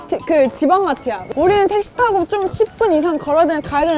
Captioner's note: talking..talking